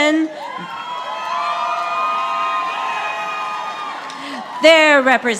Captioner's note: audience applauding